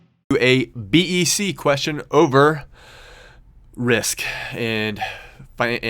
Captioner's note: voiceover